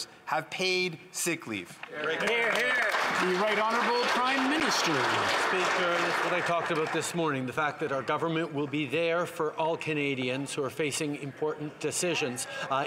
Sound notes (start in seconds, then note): 5.2 some Applause